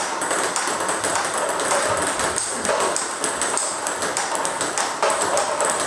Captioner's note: ball ping pong hitting continues